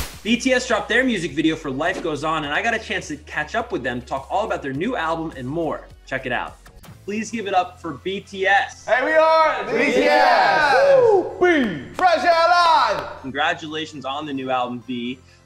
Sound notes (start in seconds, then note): 8.9 group cheers